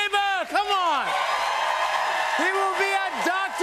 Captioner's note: cheers and applause